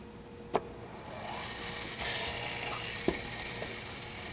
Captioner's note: another thunk, drill bits whirring